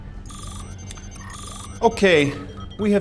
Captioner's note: electronic buzzing